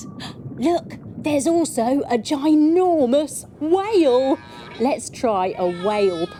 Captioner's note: sighing